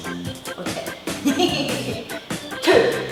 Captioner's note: gleeful chuckle